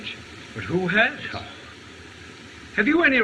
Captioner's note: scoffs